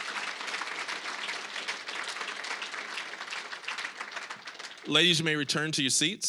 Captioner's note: applause, cheering; applause